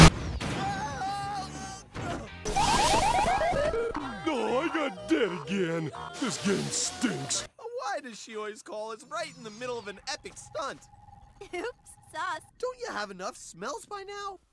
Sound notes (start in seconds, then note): 0.1 Chris screams; 2.4 video game noises